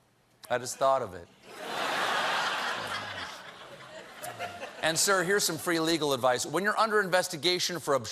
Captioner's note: laughter